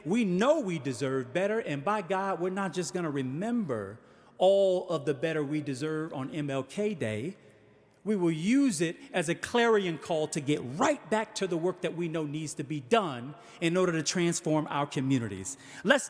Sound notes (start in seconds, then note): none